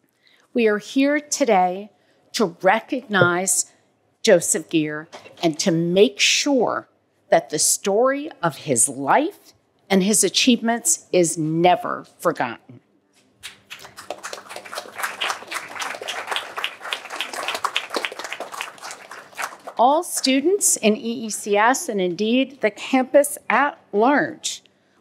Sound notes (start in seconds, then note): 13.4 applause